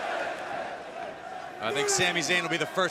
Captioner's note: crowd cheering